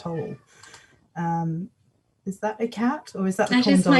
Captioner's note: meow, meow, meow